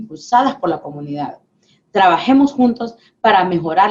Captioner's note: speaking spanish